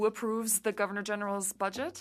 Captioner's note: speaking french